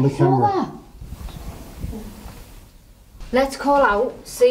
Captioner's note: ghostly Voice